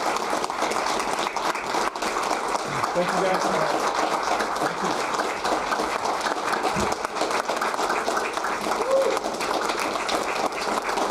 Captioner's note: applause